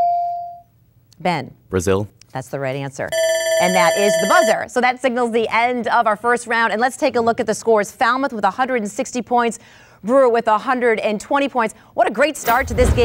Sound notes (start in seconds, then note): 0.2 dinging; 3.2 buzzing